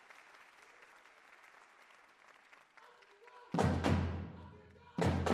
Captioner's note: cheers and applause